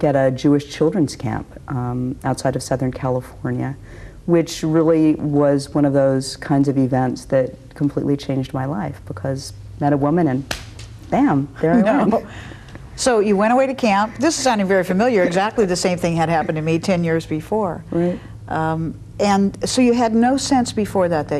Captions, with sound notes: at a Jewish children's camp outside of Southern California, which really was one of those kinds of events that completely changed my life because I met a woman and (claps) bam there I am. - (laughs) So you went away to camp, this is sounding very familiar. Exactly the same thing had happened to me 10 years before. And so you had no sense before that,